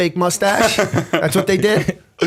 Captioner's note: laughter